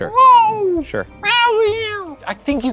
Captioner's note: imitating cat meowing